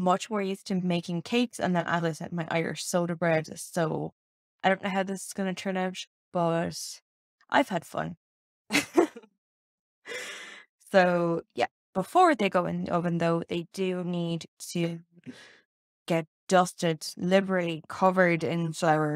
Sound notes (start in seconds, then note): 8.8 laughs